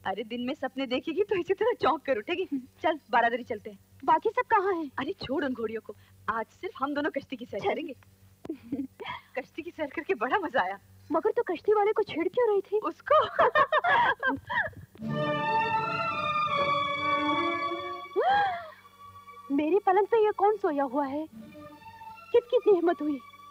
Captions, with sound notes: That's bound to give you a scare. Come, let's go to the mansion. Where are the rest of the girls? - Forget them! Today we'll go boating. - Let's go! The boat ride was so much fun. Why were you teasing the boatman? - Him? (Laughs) (Gasps) Who dares to sleep on my bed? Who is he?